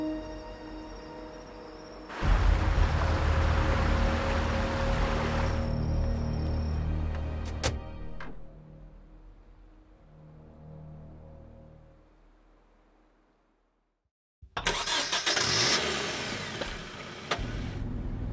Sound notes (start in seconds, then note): 14.6 engine starting